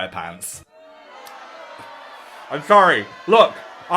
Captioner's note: crowd booing